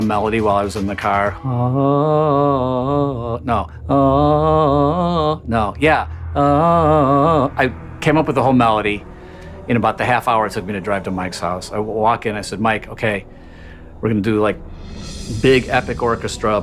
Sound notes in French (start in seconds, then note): 1.5 Fredonne; 3.2 Fredonne un air différent